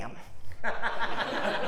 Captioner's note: laugh